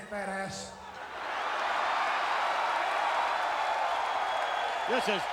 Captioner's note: crowd cheering